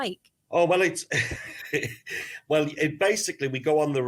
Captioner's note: laughs